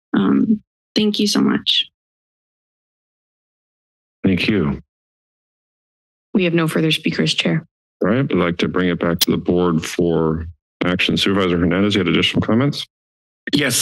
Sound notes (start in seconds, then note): 1.8 silence